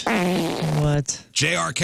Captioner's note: farting